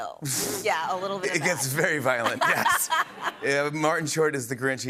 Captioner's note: laughter